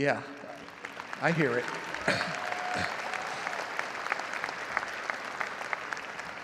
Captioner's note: audience cheering and applauding